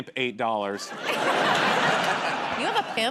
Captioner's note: laughter